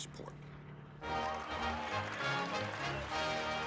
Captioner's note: crowd cheering